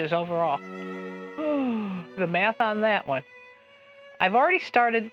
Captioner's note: heavy sigh